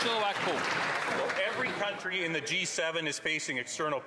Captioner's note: some Applause